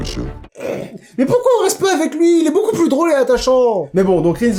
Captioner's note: snorts